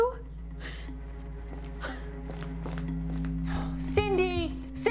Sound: scoffing

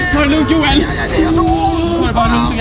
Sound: whining

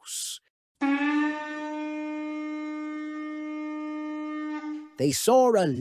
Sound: horn blares

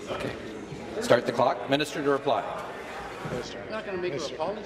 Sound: conversation din

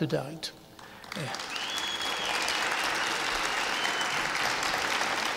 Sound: audience applauding

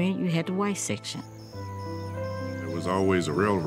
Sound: insects chirping

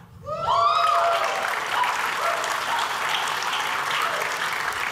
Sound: crowd cheering and clapping

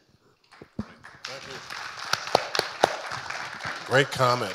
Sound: audience applauding

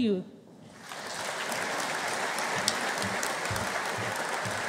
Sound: audience applauding

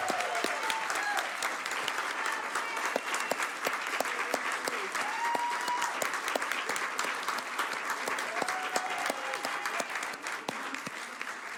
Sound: applause

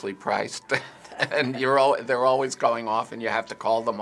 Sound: chuckling

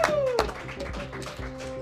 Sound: cheering

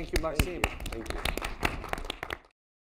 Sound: audience and hosts applaud

